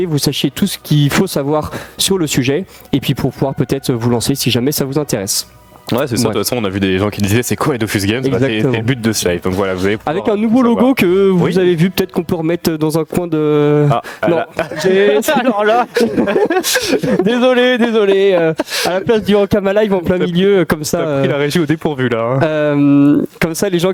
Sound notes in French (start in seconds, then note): 14.2 rires